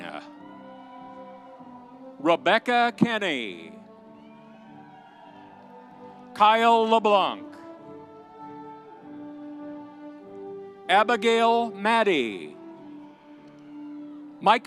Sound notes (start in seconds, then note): 0.0 audience cheering; 3.7 audience applauding; 7.9 audience cheering; 12.5 audience cheering